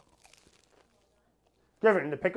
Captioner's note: crunch